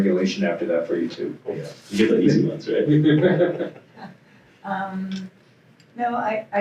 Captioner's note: laughs